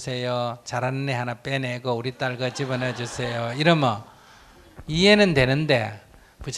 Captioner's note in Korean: 청중웃음